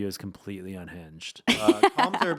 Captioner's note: laughing